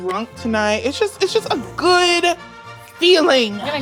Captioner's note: fingers snapping